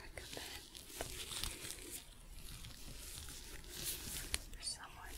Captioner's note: sticky sounds